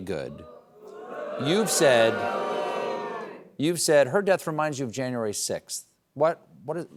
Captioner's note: booing